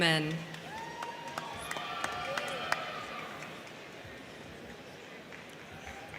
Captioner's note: crowd clapping; crowd cheering